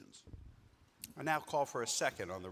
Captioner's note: microphone rattling